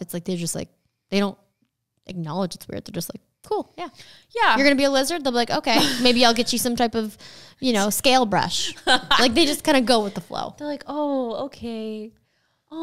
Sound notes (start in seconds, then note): 8.7 laughing